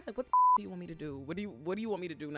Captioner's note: beep